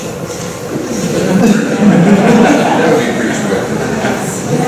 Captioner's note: laughter